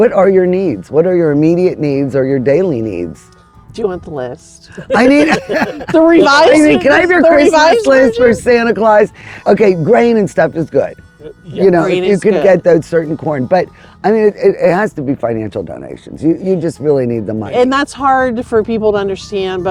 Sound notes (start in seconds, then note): 4.7 laughs